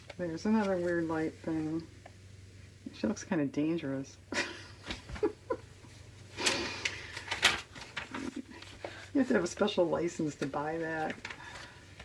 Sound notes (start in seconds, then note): 7.9 laughs